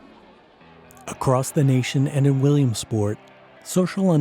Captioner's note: voiceover